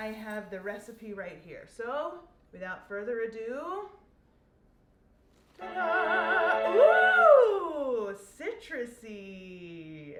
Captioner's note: ta da sound effect